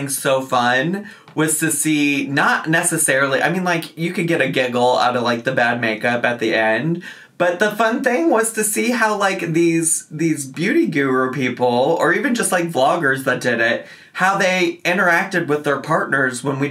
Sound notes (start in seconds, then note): none